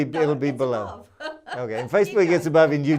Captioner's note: laughs